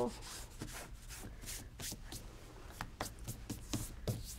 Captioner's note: hands brushing